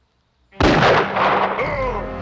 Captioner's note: gun firing; dramatic music; Jim groaning